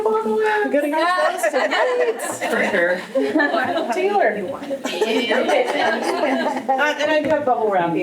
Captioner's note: laughter